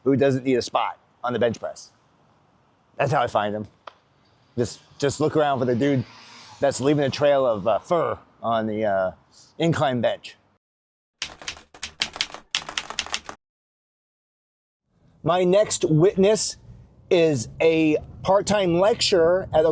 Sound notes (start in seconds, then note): 11.2 keyboard keys clicking